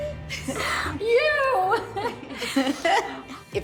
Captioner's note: laughing